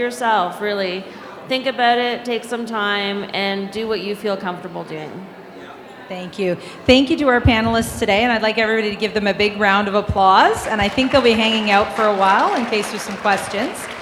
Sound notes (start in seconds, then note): 10.1 audience applauding